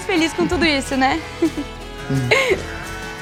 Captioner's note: laughter